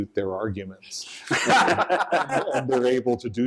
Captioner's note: laughter